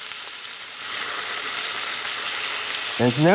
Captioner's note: sizzling sound